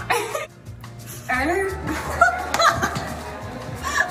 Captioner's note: laughing; laughing